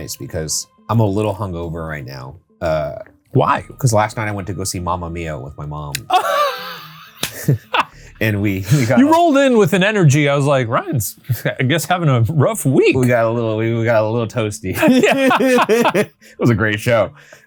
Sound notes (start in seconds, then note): 6.0 chuckling; 6.0 laughing; 14.7 both laughing